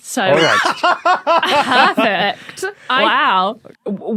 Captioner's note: laugh